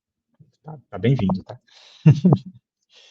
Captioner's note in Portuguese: risada